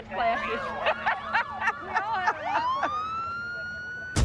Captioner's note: laughter